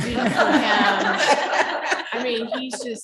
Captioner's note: chuckling